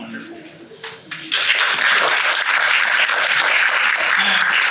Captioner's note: audience applauds